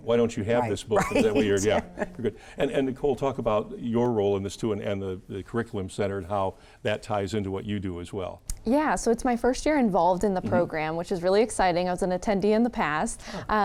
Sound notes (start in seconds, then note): 3.9 chuckling